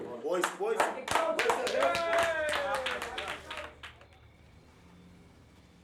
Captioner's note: applause